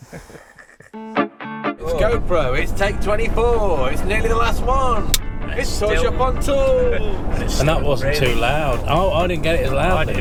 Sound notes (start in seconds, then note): 0.0 chuckles; 1.0 upbeat music plays; 5.2 clapperboard clacks